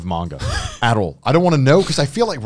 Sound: laughing

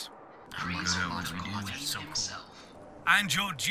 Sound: mumbling in approval

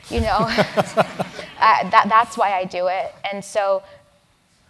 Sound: laugh

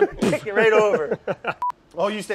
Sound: laughs

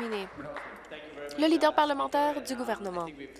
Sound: applause

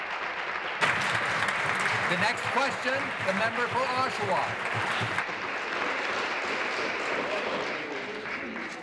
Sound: applause

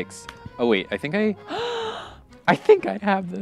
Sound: gasps

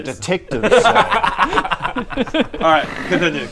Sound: very bad idea giggles

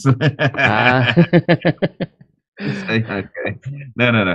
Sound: laughter

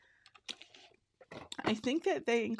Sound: packaging rustles

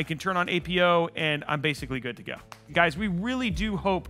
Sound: smooth chill music; claps hands

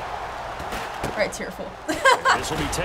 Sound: laughs

